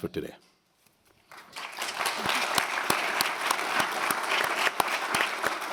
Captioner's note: applause